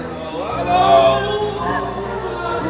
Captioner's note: all chattering